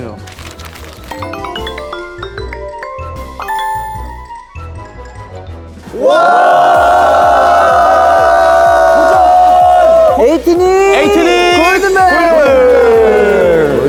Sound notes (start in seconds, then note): 8.5 heart pounding